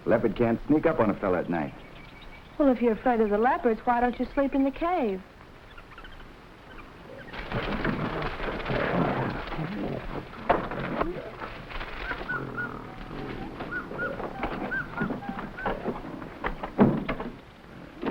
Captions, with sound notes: Leopard can't sneak up on a fella at night. - Well, if you're afraid of the leopards, why don't you sleep in the cave? (animals chattering) (gorilla rustling) (gorilla grunting) (gorilla rustling)